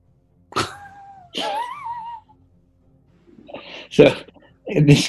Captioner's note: chuckling